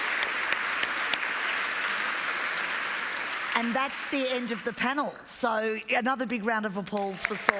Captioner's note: applause